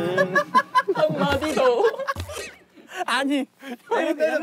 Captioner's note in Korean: 적막을 깨는 웃음소리